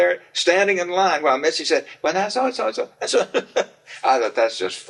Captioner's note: laughs